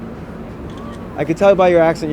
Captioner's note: camera shuttering